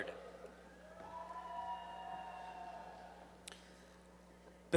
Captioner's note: applause